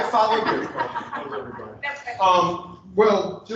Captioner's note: laughter